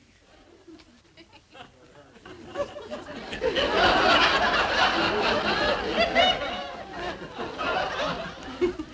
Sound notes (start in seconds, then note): 4.1 audience laughing